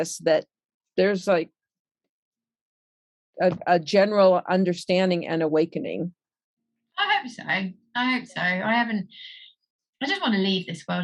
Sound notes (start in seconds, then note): none